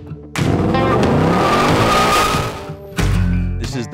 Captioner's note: tire squeal